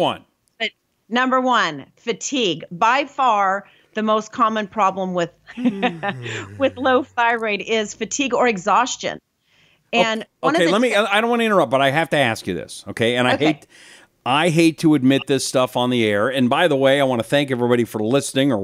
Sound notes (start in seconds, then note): 5.5 laughs; 5.7 yawns